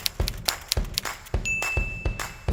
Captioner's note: upbeat music; computer typing; bell dinging